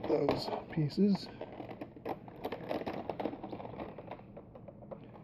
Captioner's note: creaking plastic sound